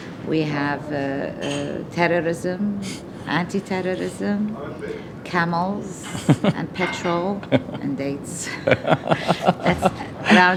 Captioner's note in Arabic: تضحك